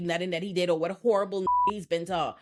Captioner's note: beep